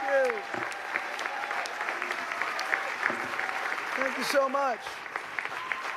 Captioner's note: applause